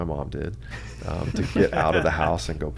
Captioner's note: laughs